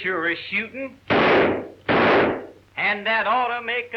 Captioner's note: gun firing